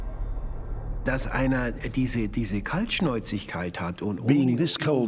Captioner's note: speaking German